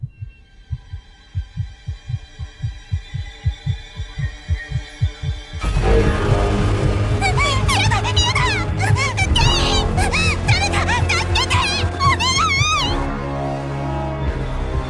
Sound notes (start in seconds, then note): 0.0 heartbeat thudding; 0.2 dark, ugly music plays; 7.4 screams; 9.1 stammers